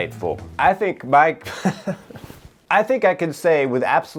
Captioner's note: laughs